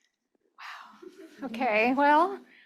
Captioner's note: chuckling